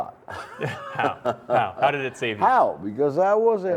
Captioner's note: laughter